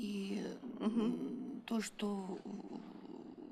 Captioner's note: speaking russian